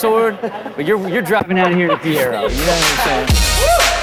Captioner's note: laughing; upbeat music